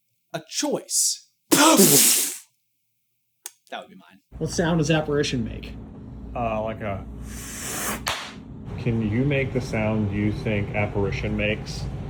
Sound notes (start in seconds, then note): 7.2 inhaaaaaaaaaaaaaaaaale; 8.0 smack!